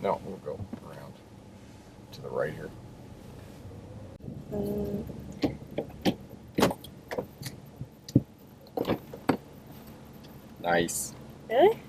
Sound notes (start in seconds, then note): 5.0 gear shift clunking